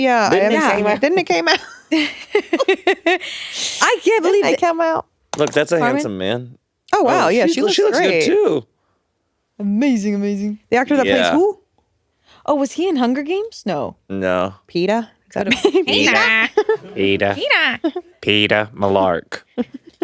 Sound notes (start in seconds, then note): 1.9 all giggling